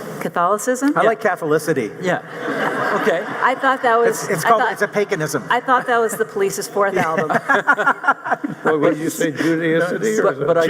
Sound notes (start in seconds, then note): 2.3 audience laughing; 6.9 laughing